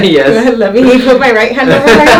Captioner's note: laughter